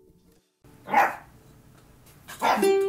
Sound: dog barks; dog barks

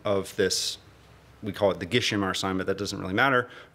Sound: non-english speech

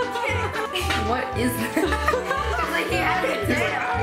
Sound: laughs

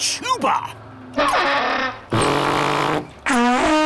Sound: awful bellowing

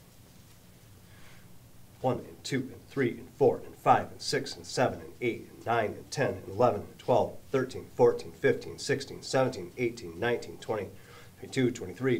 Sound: breath

